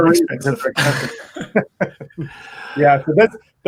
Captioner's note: laughing